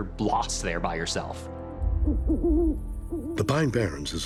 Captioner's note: owl hoots